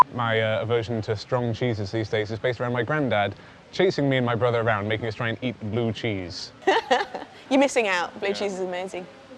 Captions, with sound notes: My aversion to strong cheeses these days is based around my grandad chasing me and my brother around trying to make us eat blue cheese. [lauhging] You're missing out, blue cheese is amazing.